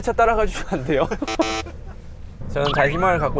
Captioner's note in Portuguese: Beep- É contra as regras